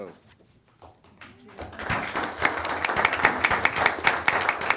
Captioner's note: assemblage applauding